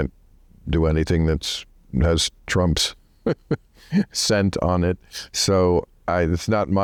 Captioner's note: laughs